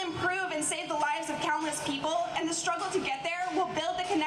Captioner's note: none